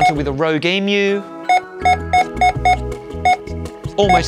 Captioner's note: scanner beeping repeatedly